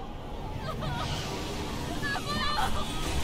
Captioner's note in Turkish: Kamala haykırıyor